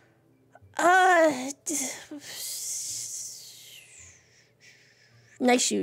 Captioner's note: hissing Breath